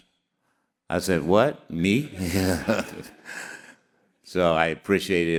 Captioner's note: all laughing